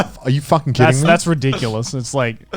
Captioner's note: chuckling